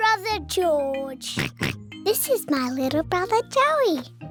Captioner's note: oinks